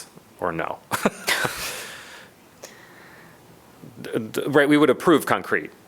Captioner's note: laughter